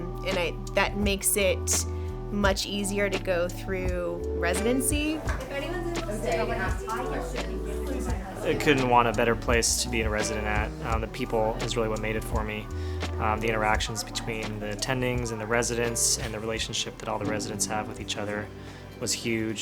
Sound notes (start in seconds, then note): 4.6 chatter